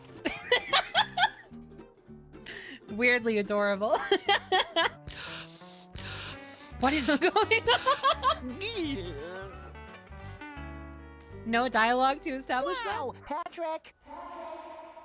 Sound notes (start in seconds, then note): 0.2 laughter; 4.0 laughter; 7.0 laughing